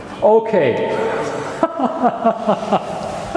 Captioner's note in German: lacht